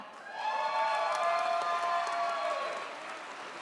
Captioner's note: audience cheers